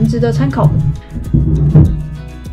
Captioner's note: moving sounds from other room